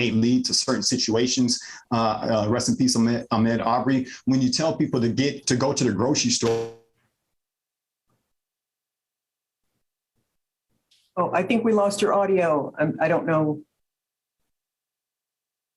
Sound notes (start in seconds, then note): 7.0 audio cuts out